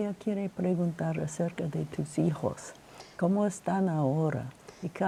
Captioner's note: speaking Spanish